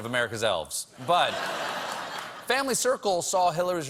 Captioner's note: laughter